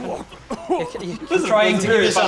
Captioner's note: coughing and spluttering